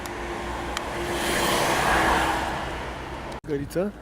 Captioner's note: traffic noise